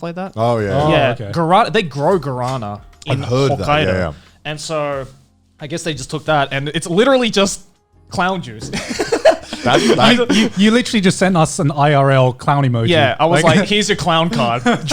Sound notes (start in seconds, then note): 8.6 all laughing